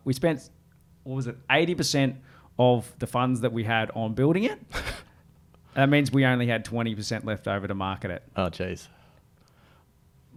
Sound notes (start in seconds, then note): 4.6 laughs